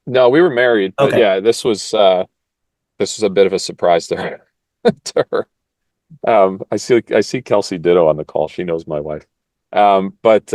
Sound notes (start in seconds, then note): 4.9 laugh